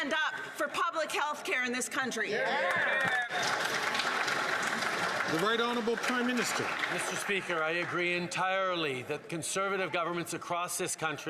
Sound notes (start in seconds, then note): 5.3 some Applause